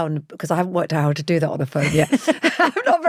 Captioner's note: laughs